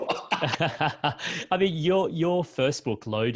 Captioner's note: both laugh